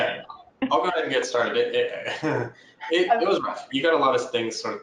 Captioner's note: laughs